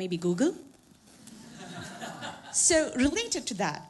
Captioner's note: laughter